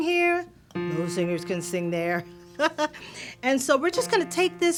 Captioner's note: laughter